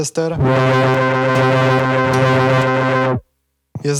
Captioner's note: whirr